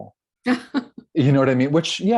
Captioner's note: laughs